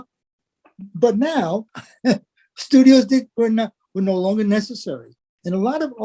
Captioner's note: laugh